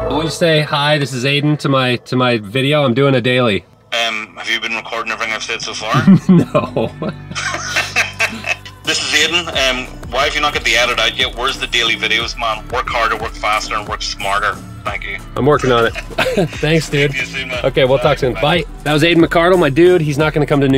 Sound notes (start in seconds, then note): 5.8 chuckles; 7.9 laughs